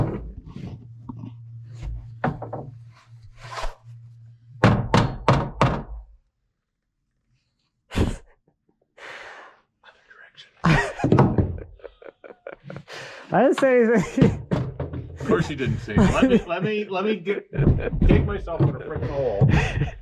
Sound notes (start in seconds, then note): 4.6 hammer knocking; 8.3 speaker laughing; 19.7 speaker laughing